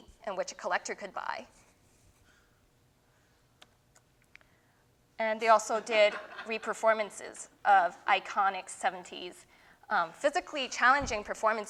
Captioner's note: laughter